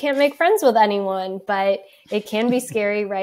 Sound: laughs

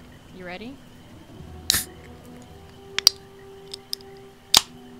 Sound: the magical sound of a can opening

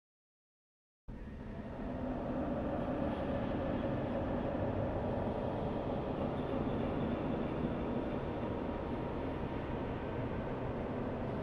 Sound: spooky ambience

